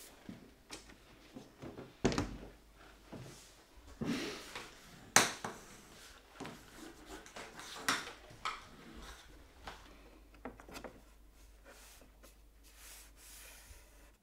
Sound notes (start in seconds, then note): none